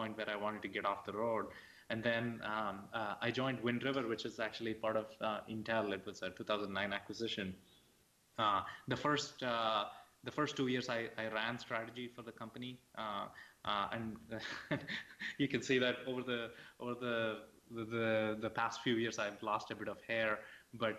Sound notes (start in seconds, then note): 14.3 laughs